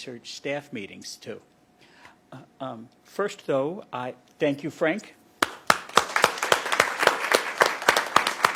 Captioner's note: applause